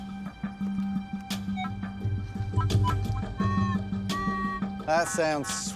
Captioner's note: beeping